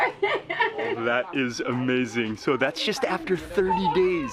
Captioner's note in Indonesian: tertawa